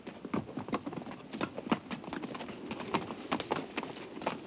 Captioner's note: hooves clomp